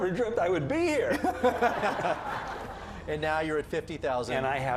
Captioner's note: laughter